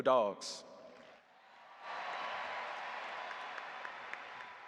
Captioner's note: audience applauding